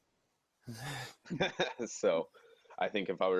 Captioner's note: laughing